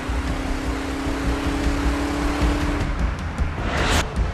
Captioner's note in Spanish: Sonido de motores